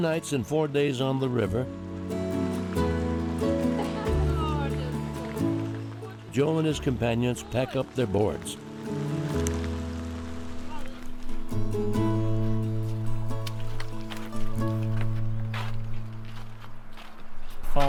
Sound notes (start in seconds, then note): 3.8 indistinct chatter; 8.7 raindrops patter